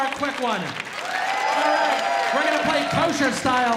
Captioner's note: audience cheering